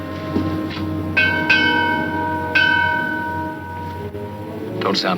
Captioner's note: bell clanging